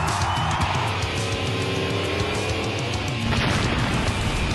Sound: crowd cheering; engines revving up; boom!

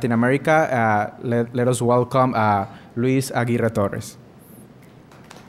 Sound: applause

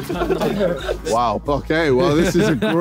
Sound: all laughing

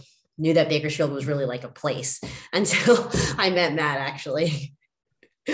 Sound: laughs

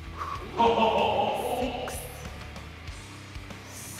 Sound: laugh

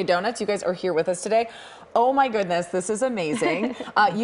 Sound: laughter

